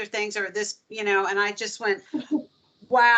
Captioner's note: chuckling